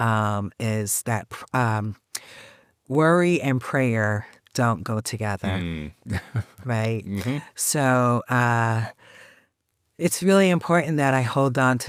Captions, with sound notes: is that worry and prayer don't go together, right? - Mhm. (chuckles) - So it's really important that I hold on